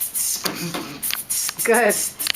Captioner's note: beatboxes